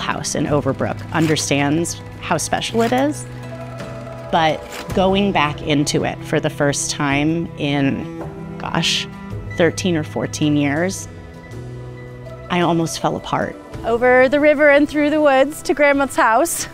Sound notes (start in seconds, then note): 3.2 projector shuffles